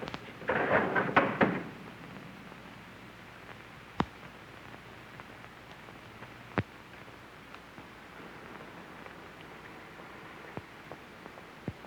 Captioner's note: door shuts